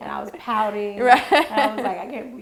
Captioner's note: laughing